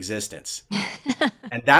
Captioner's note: laughs